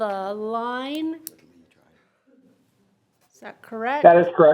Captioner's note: faintly speaking